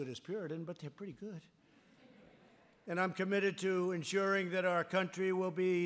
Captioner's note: laughter